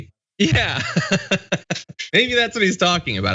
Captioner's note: laugh